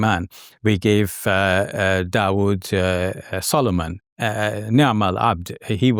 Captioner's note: dr. Speaking in foreign language; speaking in foreign language